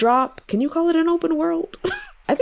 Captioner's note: laughs